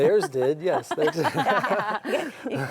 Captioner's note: group laughs